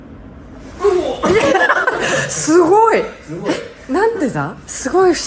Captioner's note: laughs